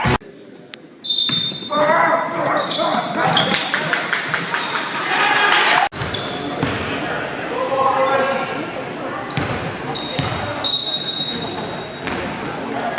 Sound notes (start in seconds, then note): 1.0 whistle blows; 1.7 kid starts barking; 10.6 whistle blows